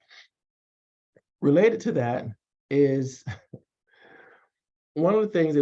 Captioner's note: chuckles